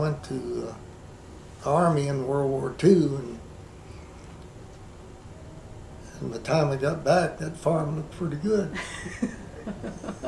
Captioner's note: laughter